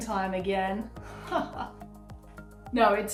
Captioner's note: genuine laughter